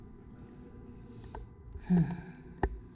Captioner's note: self-satisfied sigh